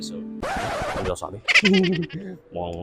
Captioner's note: laughs